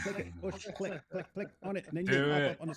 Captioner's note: ketawa